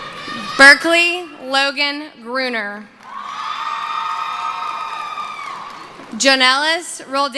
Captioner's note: screaming